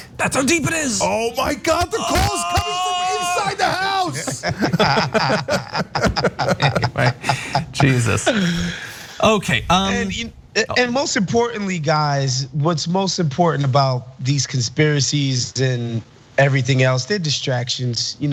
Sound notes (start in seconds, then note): 4.4 laugh